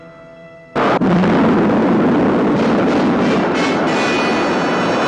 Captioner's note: rocket rumbling